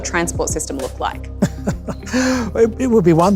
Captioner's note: laughs